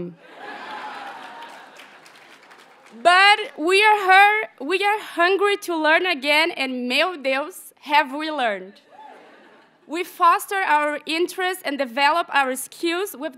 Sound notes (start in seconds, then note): 0.2 audience laughs and applauds; 7.0 graduate speaking in a foreign language